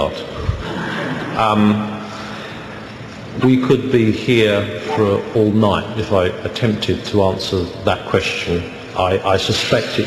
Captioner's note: laughter